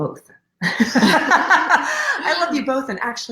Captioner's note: laughing